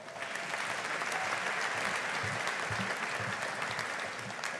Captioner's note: audience applauding